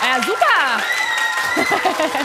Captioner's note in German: Applaus